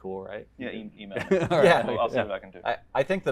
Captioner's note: laughing